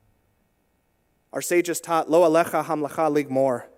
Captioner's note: in Hebrew